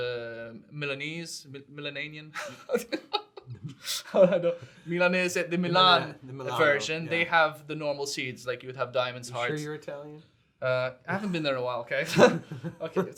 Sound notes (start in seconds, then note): 2.4 chuckles